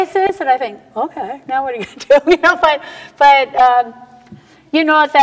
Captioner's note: laughs